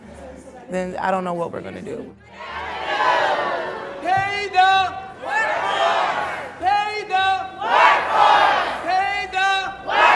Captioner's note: chanting